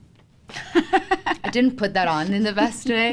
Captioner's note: laughter